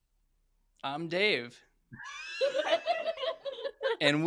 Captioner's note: laughter